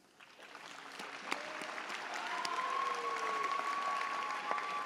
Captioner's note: audience cheers